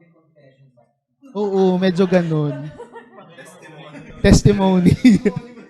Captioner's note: chuckles; laughter